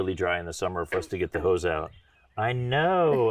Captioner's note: laughing; frog honking